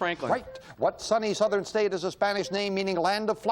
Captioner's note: beep